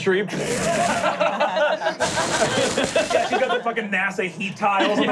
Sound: players laughing; crumbling

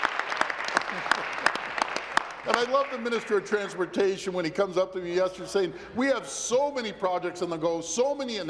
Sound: applause

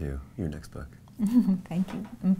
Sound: chuckles

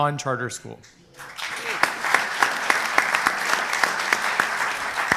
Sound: applause

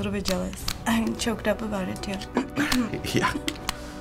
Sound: clears throat

